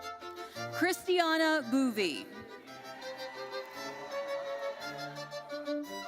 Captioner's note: audience cheers